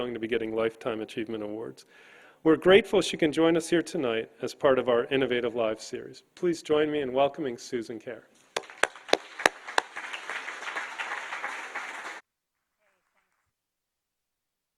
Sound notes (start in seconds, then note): 8.5 audience applauding